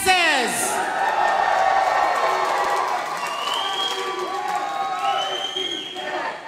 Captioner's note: cheering and applause